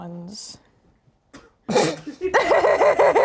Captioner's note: snorts; laughs